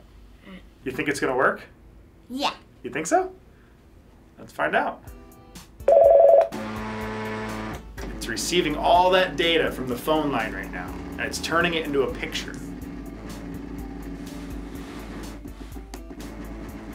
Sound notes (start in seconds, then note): 5.8 phone rings; 6.5 fax machine whirs